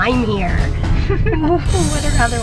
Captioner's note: chuckling